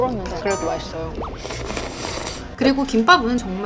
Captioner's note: Slurping ramyeon